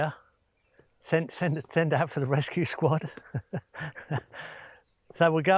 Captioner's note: laughing